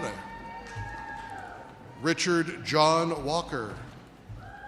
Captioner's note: audience cheers